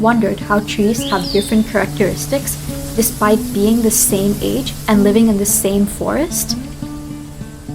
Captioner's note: birds chirping and leaves rustling